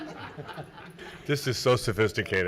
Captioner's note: everyone chuckling